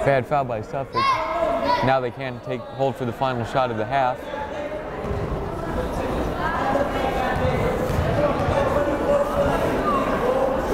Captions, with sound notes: Bad foul by Suffolk, now they can't take hold for the final shot of the half. (chattering)